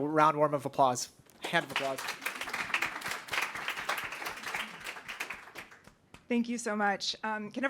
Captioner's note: applause